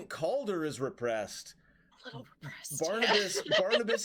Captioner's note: laughs